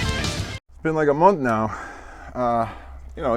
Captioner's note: sigh